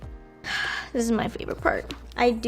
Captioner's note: sighs